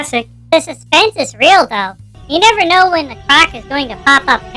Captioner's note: excitedly